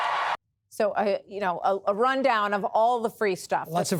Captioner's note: cheering